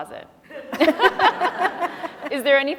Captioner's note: laughing